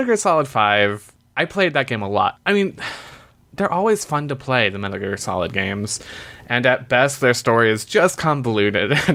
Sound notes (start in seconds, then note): 3.0 sighs